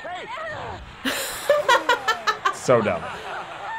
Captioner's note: laughing